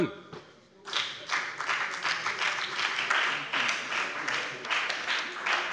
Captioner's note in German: Beifall bei der FDP und der SPD